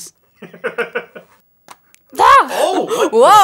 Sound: laughter

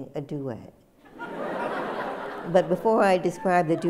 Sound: laughter

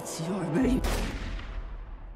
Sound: gunshot

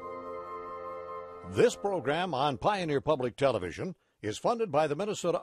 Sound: voiceover

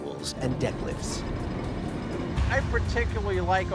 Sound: machinery rattling

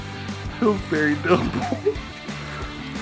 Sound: laughter

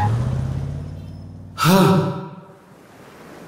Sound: sighs

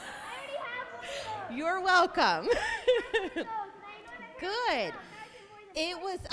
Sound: congregation laughing; child continuing to yell

